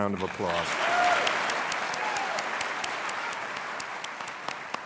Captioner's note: cheers and applause